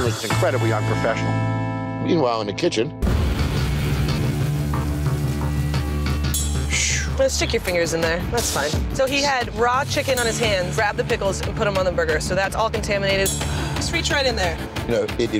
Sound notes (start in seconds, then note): 3.3 tense music; 3.4 food sizzling